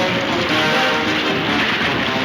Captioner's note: water splashes; upbeat orchestral music